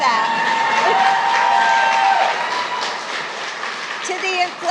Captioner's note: applause